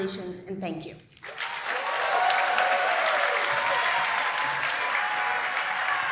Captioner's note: applause